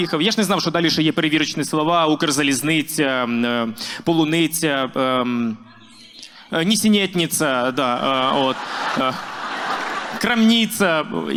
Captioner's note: speaking with russian accent